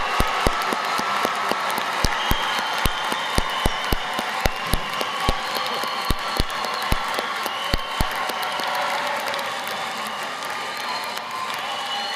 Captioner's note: cheers and applause